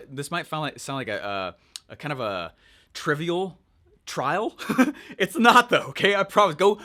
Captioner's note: chuckles